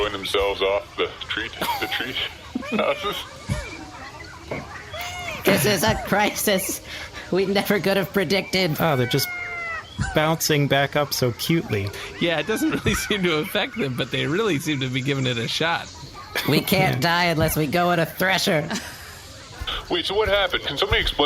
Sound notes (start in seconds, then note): 11.6 laughing; 16.1 despairing